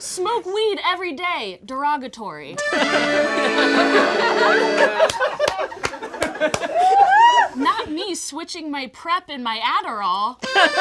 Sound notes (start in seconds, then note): 2.6 plays accordion; 2.6 all laugh; 10.4 plays accordion; 10.4 all laugh